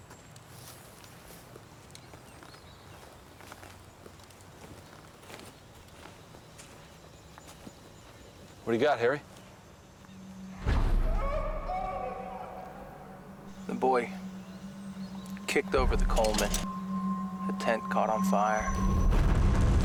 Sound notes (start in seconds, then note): 11.7 echoing